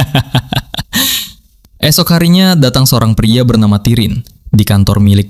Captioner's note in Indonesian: tertawa